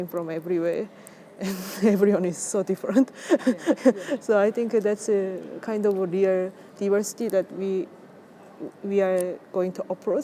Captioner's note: laughs